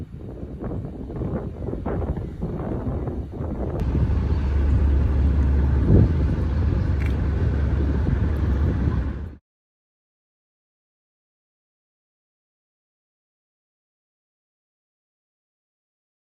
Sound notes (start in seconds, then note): 4.1 wind noise and army vehicle engines rumble in the background